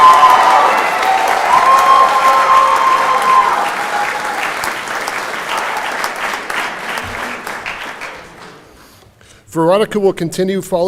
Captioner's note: cheering and Applause